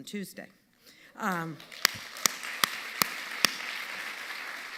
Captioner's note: audience applauding